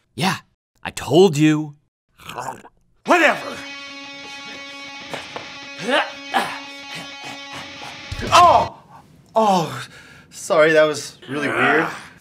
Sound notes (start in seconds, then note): 2.2 death gurgle; 3.0 rock music; 5.6 grunts